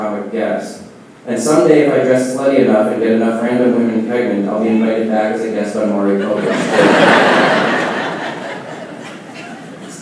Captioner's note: laughing